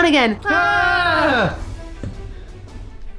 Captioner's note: uhhhhhh